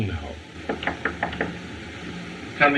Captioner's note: knocking